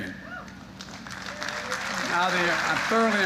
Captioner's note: applause